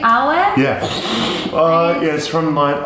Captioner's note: whoosh